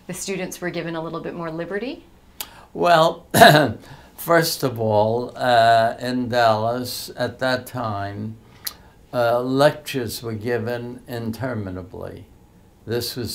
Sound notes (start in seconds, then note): 3.3 clears throat